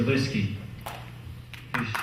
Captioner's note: clap